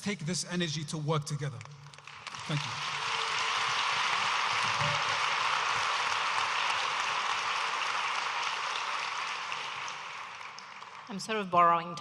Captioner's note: audience applauding